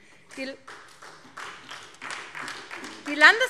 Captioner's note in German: Beifall SPD